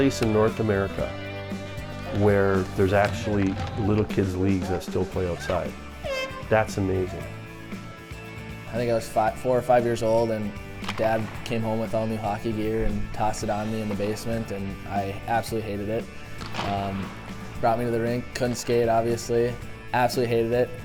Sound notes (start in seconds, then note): 5.9 horn blows